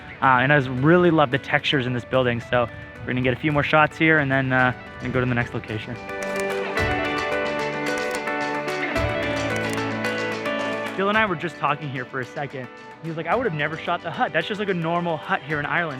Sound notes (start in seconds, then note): 6.4 upbeat music; 7.9 camera clicking